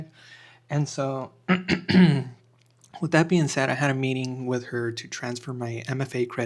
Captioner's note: clears throat